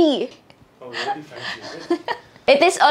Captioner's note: laughs